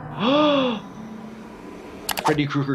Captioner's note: gasps